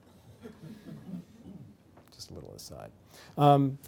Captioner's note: laughter